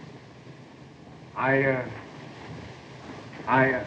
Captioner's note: harvey stuttering